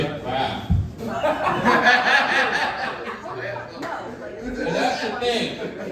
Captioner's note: audience laughing